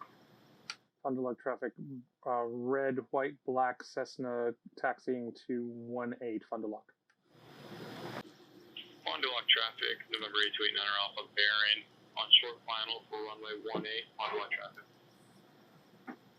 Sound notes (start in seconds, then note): 0.9 me on radio; 9.0 radio